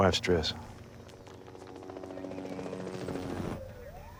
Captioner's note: helicopter blades whir; distant sirens wailing